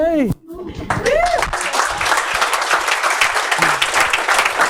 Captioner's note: audience applauds